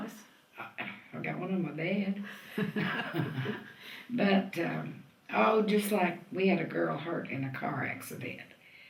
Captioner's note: laughter